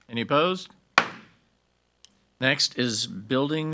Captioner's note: gavel bangs